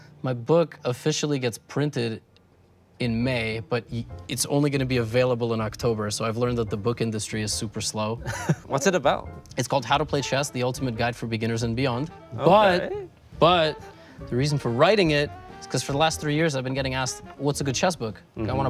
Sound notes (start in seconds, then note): 8.2 Toast chuckles